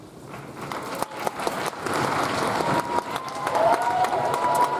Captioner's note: audience applauds